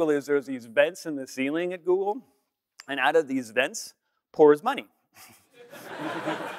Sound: laughter

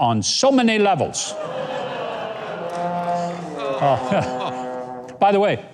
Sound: members of the audience laughing

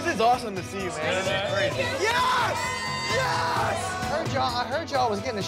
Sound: Vinny cheering loudly

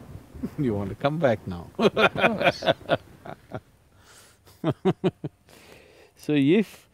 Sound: laughs

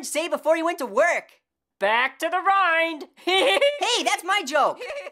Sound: guffaws; guffawing continues

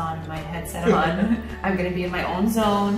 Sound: laughs

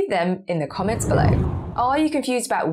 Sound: screen whooshes

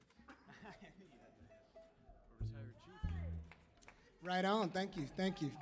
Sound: band members murmuring

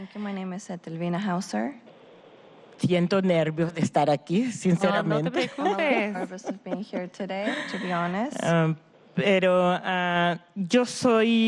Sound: speaking spanish

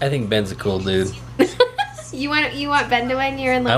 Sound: laughs

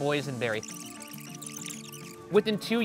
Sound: screen screeching

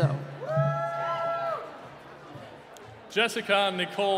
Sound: cheering

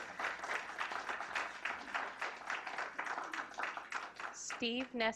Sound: clapping

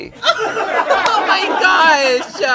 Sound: laughter

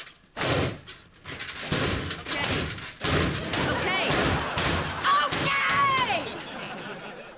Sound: slamming

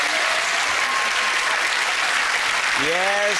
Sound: applause

